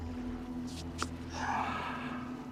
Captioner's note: sighs